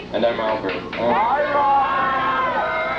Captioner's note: crowd cheering